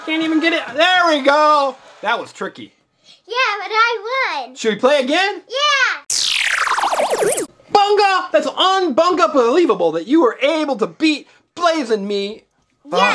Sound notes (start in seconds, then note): 6.1 laser whirring